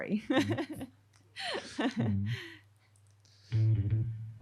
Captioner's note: laughs